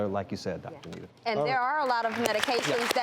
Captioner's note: applauding